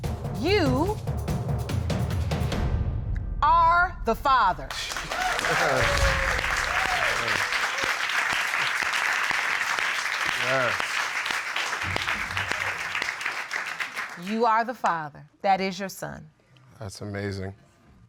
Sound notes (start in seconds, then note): 4.9 laughs; 5.1 audience cheering